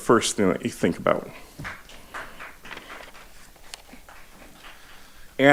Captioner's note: audience applauding